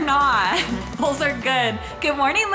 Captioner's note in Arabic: الضحك